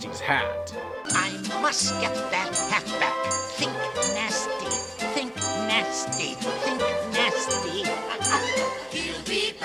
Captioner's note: laughs